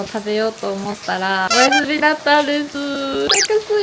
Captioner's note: crying